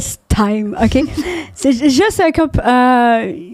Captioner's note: in french